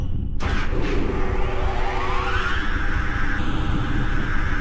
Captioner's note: distorted generator starting up